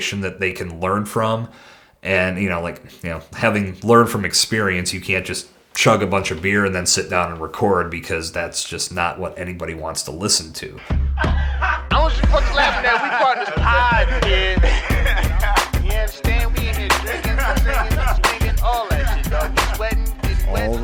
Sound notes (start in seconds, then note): 11.2 laughing